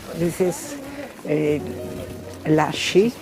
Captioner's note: speaking in foreign language